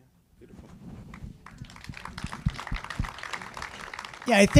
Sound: audience applauding

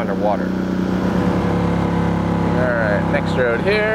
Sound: boat engine humming

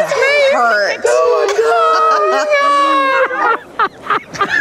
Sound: everyone laughs; laughs

